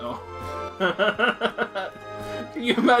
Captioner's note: laughs